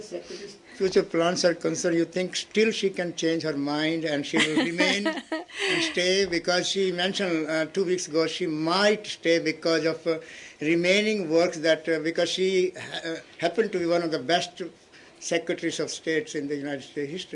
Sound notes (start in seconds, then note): 6.9 laughter